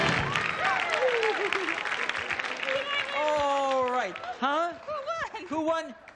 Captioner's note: audience claps and cheers